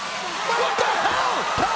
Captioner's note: fire extinguisher hisses